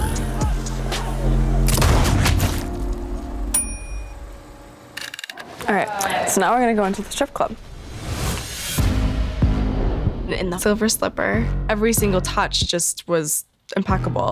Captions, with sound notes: (GUNSHOT) (BELL DINGS) All right, so now we're gonna go into the strip club. In the Silver Slipper, every single touch just was impeccable.